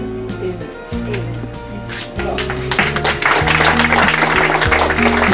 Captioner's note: applause